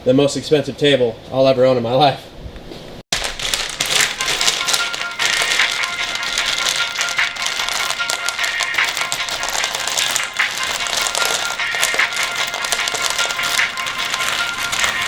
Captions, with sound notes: the most expensive table I'll ever own in my life. (electrodes scattering) (upbeat music)